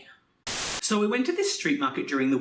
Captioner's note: Static